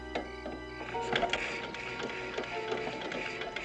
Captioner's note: engine cranking